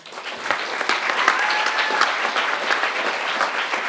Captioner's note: crowd applauding